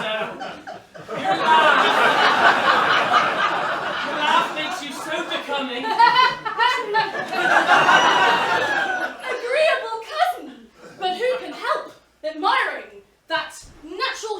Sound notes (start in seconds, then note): 1.5 laughter; 5.1 laughs